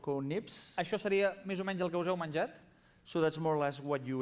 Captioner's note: non-english speech